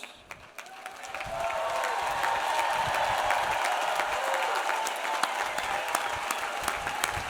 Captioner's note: audience applauds; audience cheers